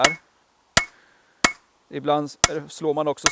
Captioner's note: peening